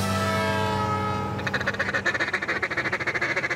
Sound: duck call noises

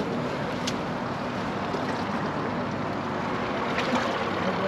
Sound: water lapping

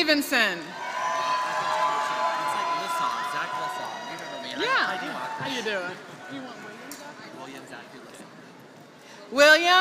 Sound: applause

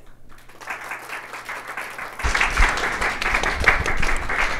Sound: audience applauds

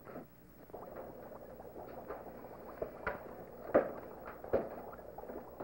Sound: bubbling sounds

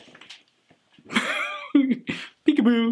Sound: laughs

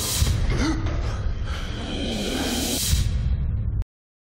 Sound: gasps; hisses

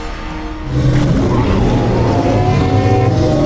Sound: gasps; roars

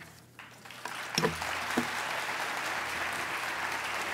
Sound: applause

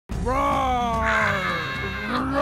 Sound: screaming

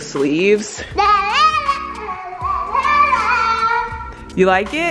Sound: shouting excitedly

